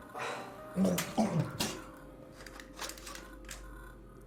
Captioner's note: vomiting